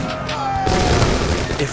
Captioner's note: gunfire